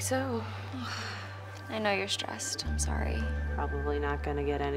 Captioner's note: sighs